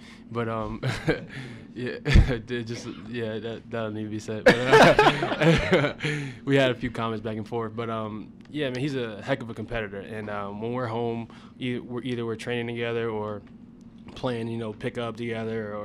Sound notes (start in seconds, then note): 0.8 laughs; 4.4 laughter